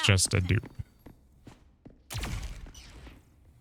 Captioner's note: gun fires